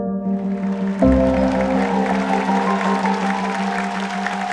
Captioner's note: cheering and applause